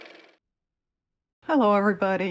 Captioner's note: car motor